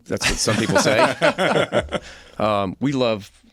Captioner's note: laughter